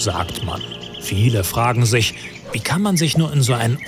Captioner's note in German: Vogelzwitschern